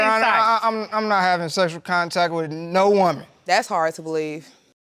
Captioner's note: stammers